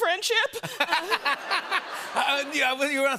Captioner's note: laughter